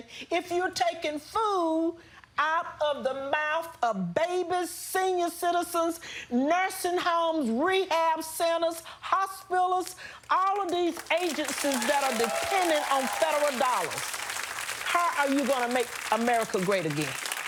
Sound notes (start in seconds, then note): 14.0 studio audience applauds